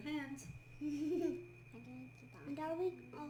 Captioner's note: kid chuckles